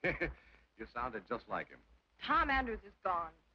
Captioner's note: chuckles